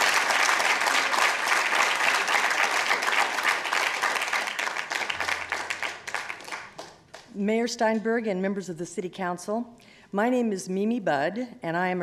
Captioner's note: applause